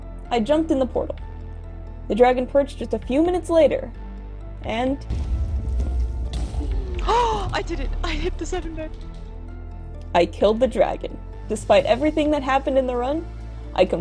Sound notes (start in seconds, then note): 5.1 explosion noises; 7.0 gasp